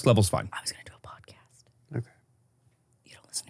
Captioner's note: whispers